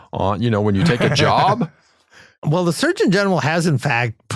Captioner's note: laugh